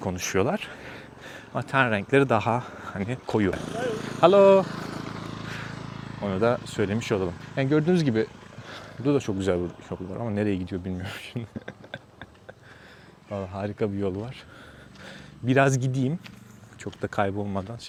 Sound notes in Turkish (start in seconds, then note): 11.0 kahkaha